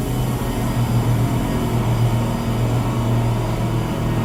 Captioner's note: mechanical lift whirring